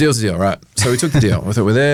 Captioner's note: laughs